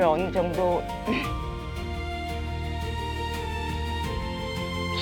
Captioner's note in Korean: 목을 가다듬음